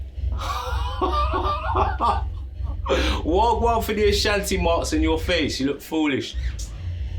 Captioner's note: laughs